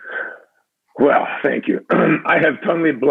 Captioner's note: clears throat